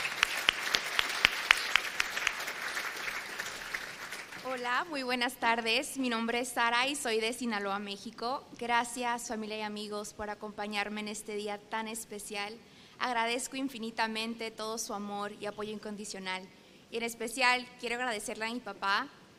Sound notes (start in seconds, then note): 4.6 speaking spanish